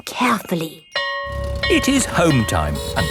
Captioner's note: school bell ringing